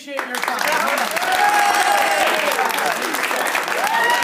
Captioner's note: applausey applause